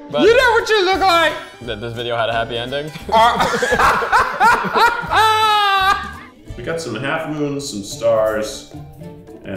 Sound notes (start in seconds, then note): 3.1 both laughing